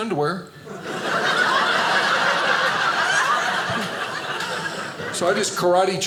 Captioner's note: audience laughing